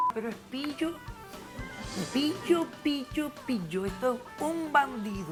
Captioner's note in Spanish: Bip